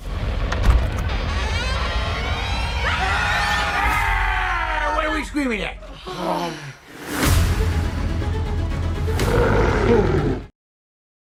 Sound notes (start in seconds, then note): 0.0 dramatic music; 2.9 screaming; 5.9 sigh; 6.7 dramatic music; 9.2 roar